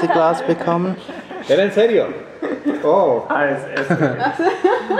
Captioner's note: in Spanish